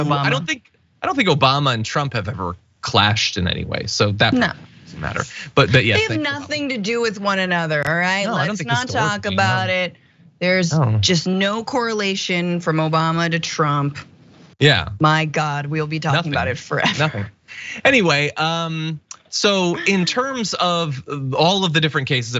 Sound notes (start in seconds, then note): 16.1 laugh